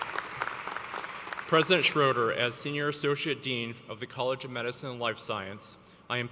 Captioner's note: applause